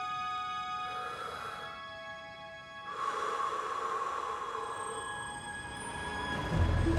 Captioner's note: exhaling; man inhaling; light orchestral music